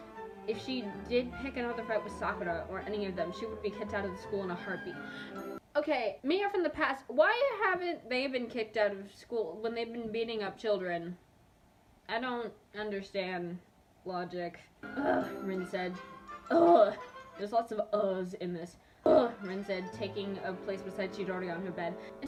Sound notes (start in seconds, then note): 5.0 inhales